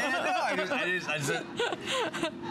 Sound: laughter

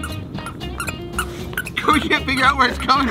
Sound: shoes squeaking

